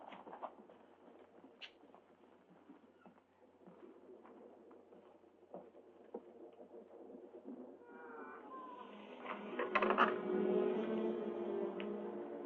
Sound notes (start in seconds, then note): 7.9 lever creaking; 8.8 suspenseful music